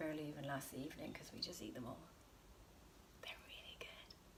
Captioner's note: whispers